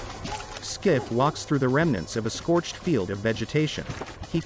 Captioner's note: meter beeping